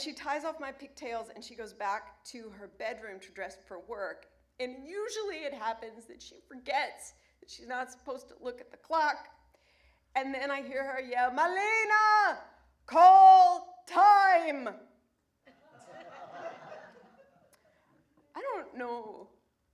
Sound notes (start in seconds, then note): 15.4 laughter